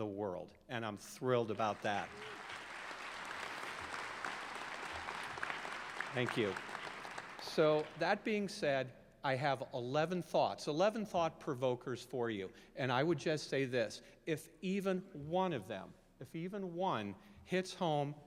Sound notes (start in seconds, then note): 8.0 applause